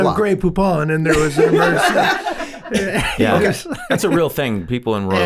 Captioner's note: all laughing